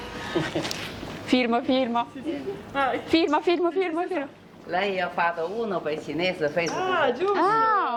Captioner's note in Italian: risate